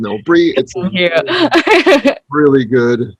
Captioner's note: laughs